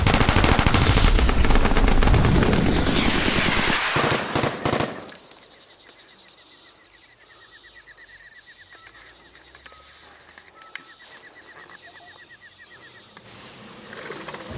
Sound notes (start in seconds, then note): 4.7 gunfire stops; 13.1 growling